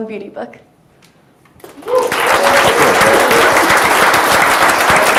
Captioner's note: audience cheers